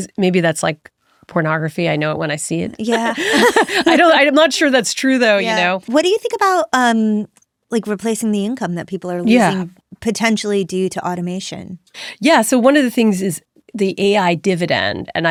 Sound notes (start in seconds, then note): 2.9 both laughing